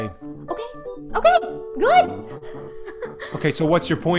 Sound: laughs

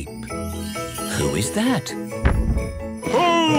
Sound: thump!

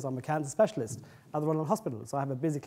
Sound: none

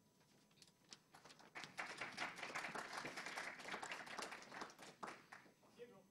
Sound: applause

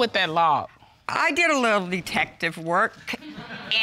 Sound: audience laughs

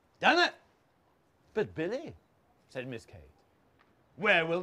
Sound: posh voice

